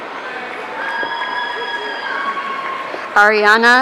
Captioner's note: audience cheering